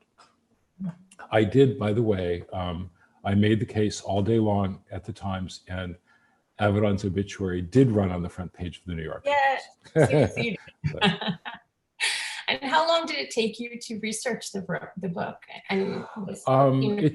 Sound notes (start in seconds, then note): 9.9 laughs